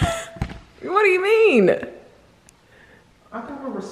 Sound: laughs

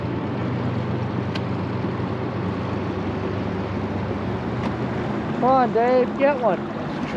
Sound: mother revving

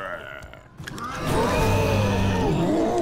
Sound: roaring

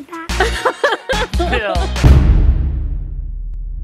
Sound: laughing

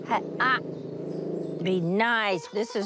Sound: JJ growling

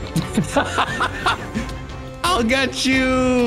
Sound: laughing

